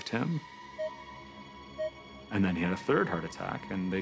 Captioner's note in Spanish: flatline